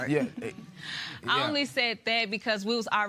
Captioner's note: laughing